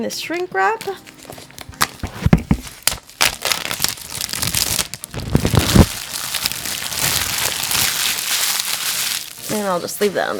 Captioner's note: plastic crackling